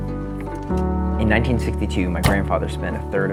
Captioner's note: car door closes